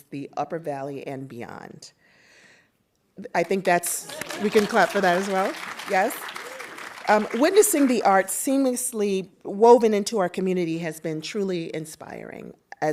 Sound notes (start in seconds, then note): 4.0 audience applauding